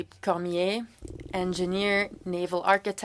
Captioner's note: speaking French